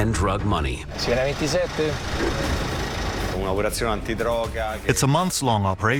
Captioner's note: speaking in native language